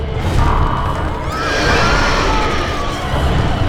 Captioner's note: frightening music; Mattie screams